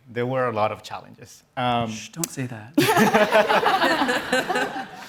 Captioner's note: laughter